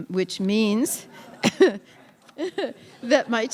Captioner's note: laughter